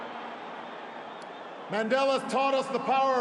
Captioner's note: applause